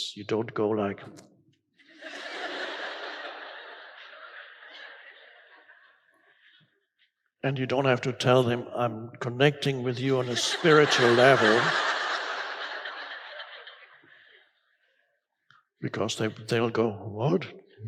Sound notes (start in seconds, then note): 1.8 crowd laughs